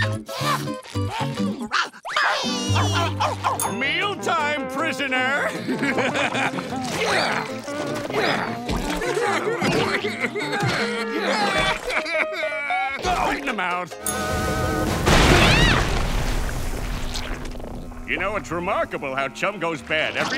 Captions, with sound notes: [barking] Mealtime, prisoner. [laughing, grunting] [whimpering] Right in the mouth. [screaming] You know, it's remarkable how chum goes bad every week